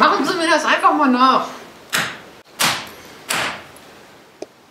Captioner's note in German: klopf klopf klopf